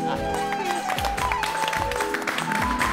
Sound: applauding

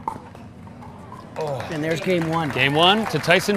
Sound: audience clapping

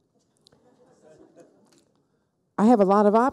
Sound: people laughing

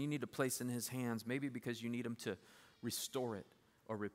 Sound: none

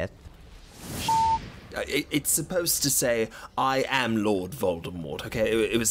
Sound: beep

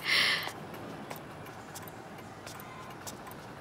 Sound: foot steps

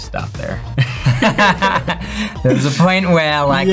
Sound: laughs loudly

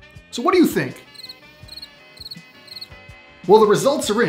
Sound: chirping

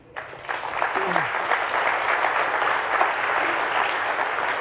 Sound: audience applauding

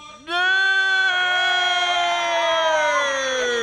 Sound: cheering

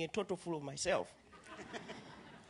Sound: laughter

